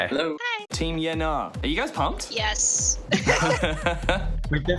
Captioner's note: laughs